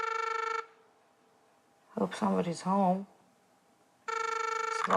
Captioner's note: telephone ringing; telephone ringing